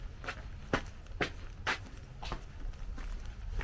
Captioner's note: feet scraping